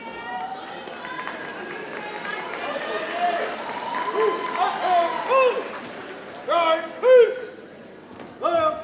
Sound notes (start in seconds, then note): 0.3 audience cheers and applauds